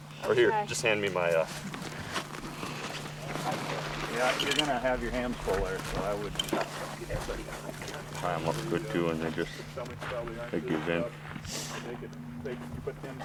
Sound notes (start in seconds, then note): 2.7 wolf scuffling